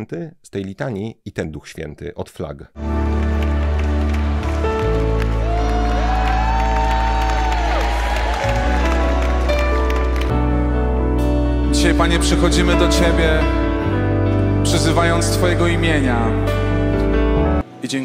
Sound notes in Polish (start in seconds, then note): 5.5 Aplauz